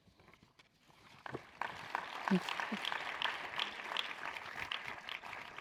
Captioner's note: audience applauds